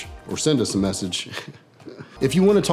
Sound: giggles

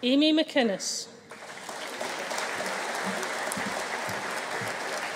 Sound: audience cheering

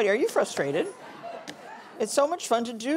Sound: audience laughing

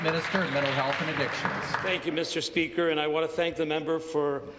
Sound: some Applause

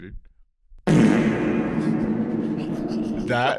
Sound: reverberating fart

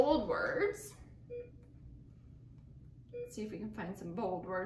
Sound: beeping

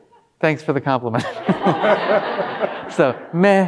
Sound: all laughing

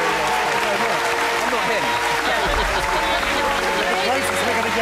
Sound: clapping and cheering; laughing

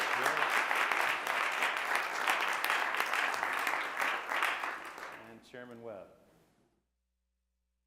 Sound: applause

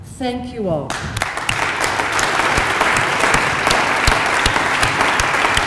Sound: applause

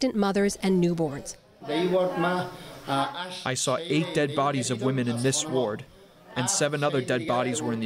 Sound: through translator

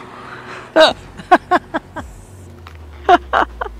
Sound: laughter

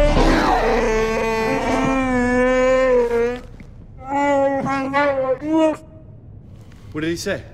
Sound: wookie roar; wookie speak

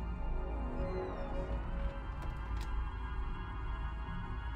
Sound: door creaking

